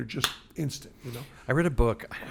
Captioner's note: smacks hand